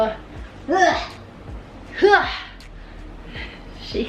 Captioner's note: yelling